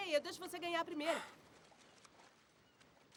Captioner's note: footsteps in water